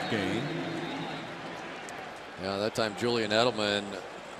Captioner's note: pa announcement